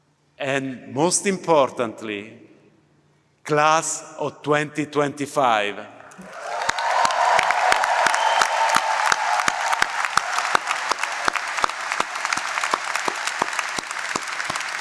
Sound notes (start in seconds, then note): 6.1 applause